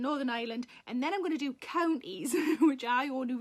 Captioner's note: Sarah laughs